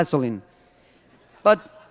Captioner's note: laughter